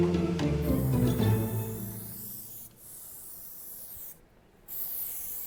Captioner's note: spray can whirring